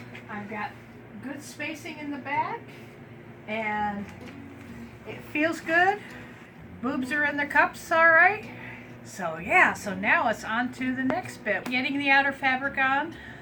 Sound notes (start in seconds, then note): none